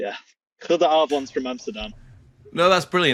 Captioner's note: speaks in Dutch